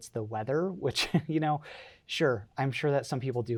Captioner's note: chuckles